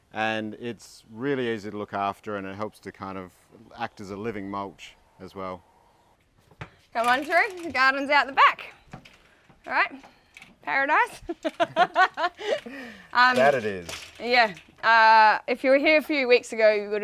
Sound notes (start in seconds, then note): 11.0 laughing